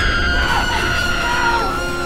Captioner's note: screaming; elevator crashing